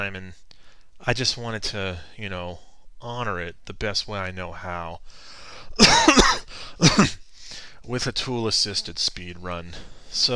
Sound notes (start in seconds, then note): 5.8 cough